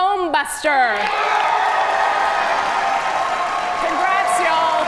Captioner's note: audience cheer and applaud